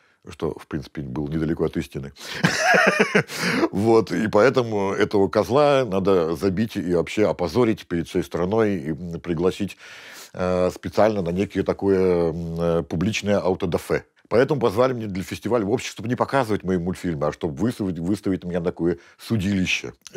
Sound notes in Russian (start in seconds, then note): 2.3 смеется